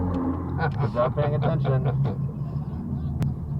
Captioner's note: passenger laughing